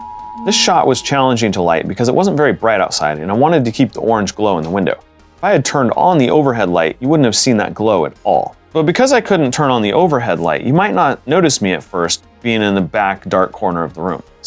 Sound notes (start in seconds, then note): 0.0 emergency alert tone; 4.6 dryer door latches